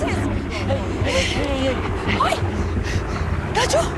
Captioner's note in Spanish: Ruido de la avioneta